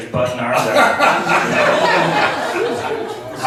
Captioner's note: laughs